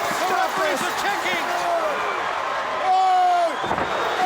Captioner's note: audience roaring